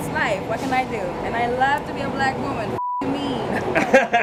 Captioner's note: beep; paparazzi laughs